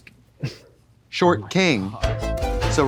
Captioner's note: Katya crinkles; synth bop